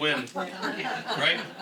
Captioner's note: audience laughs